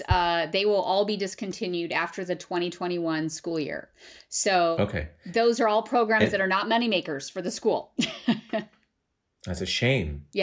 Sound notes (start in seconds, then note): 8.0 laughter